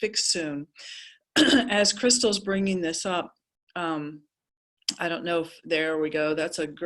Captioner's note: cough